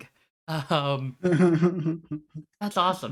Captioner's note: chuckles